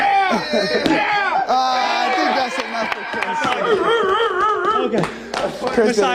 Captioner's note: laughter